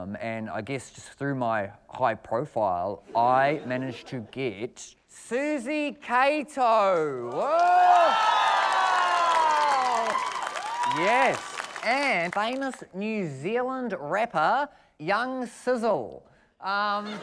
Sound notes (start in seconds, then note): 7.1 cheering, applause